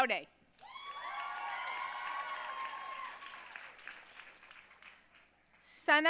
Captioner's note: audience cheering and applauding